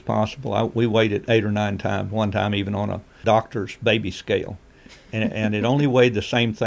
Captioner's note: laughs